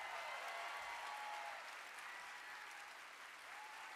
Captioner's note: audience applauding